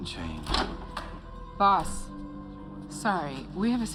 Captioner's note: door opens